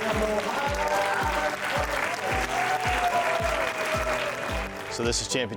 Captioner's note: audience cheering,applauding